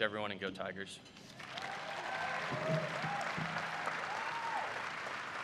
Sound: applause

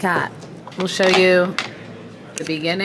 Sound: makeup brushes clattering

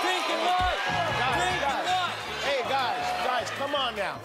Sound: cheers

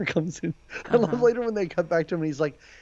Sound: laughing

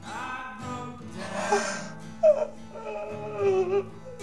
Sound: Ben sobs

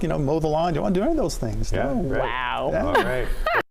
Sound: laughter

